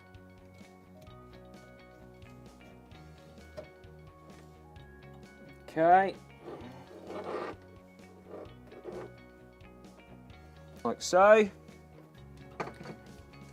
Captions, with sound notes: Okay. (Scraping sounds) Like so.